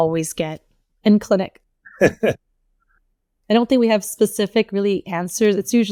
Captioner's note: laughs